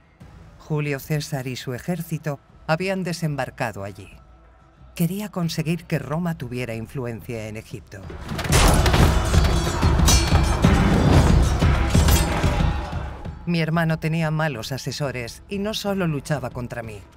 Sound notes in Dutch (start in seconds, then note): 10.2 dramatische muziek; 10.2 zwaarden kletteren